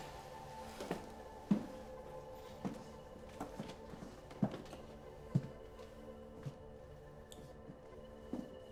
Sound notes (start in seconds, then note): 1.4 footsteps falling